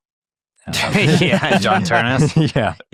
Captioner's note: hosts laughing